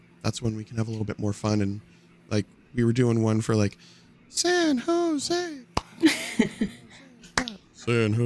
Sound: clap

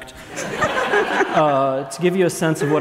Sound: laughs

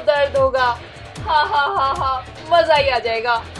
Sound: laughing

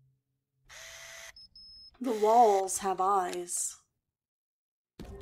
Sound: camera Lens Focus Whirring

